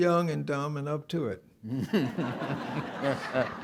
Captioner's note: laughter